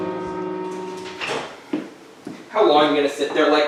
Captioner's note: assistant's footsteps